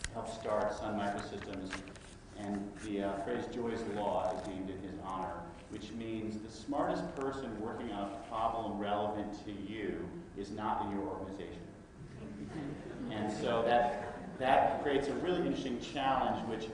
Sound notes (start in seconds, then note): 12.2 laughter